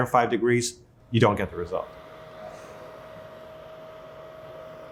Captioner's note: machine humming